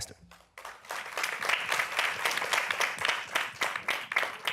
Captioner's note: applause